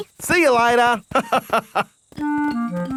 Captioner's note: laughs